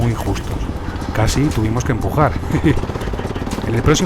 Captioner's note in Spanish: risas